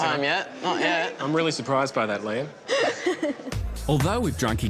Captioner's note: laughing